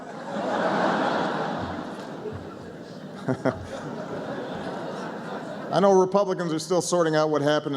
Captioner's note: laughter; laughter